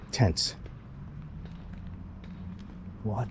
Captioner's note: street noise